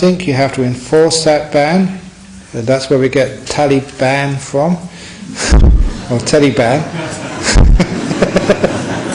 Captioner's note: laughter